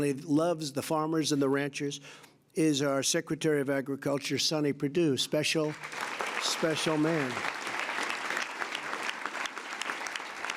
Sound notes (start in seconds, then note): 5.6 applause